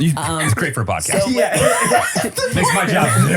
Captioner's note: everyone laughs